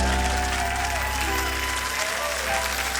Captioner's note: cheering and applause